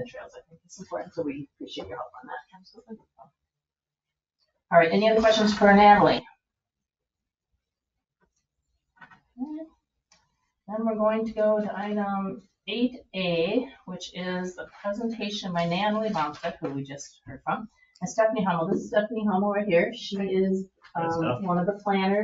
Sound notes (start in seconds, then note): 7.2 silence